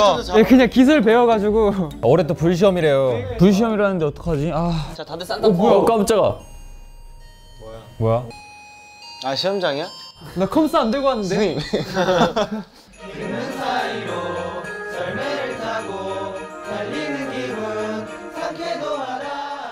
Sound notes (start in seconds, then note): 6.3 ding dong, ding dong